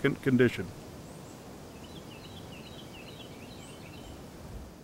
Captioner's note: forest ambience